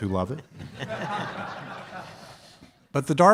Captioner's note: audience laughs